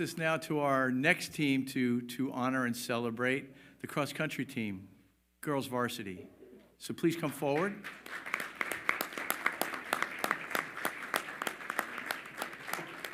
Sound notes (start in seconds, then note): 8.9 all applaud